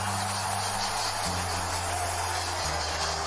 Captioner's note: cheering